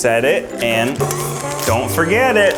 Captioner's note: beeps